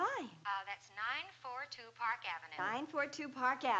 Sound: on phone

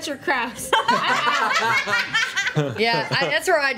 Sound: group laughs

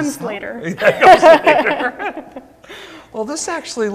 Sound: laughing

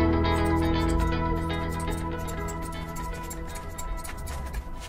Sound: scissors cutting

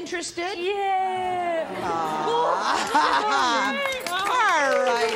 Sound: crowd coos and applauds

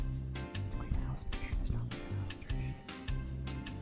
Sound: whispering

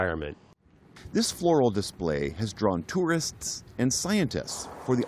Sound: voice-over

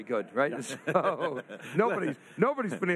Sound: all laugh

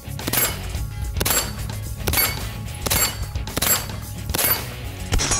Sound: gunfire

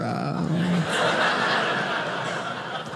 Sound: audience laughing

